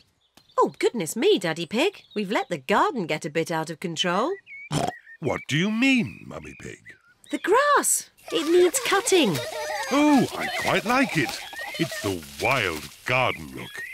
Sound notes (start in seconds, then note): 4.3 snorts